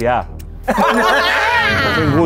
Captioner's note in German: Gelächter